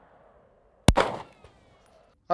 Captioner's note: bang